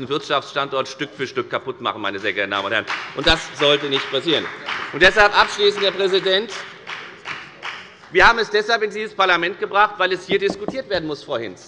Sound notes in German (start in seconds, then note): 4.1 Beifall bei der FDP